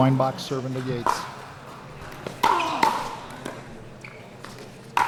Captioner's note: ball clacking